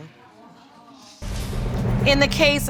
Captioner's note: audience murmuring